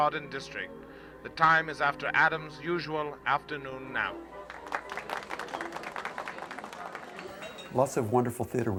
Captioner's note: clapping